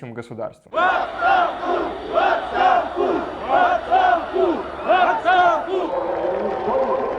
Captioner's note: crowd chanting